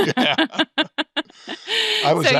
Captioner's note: both chuckling